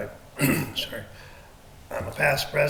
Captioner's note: clears throat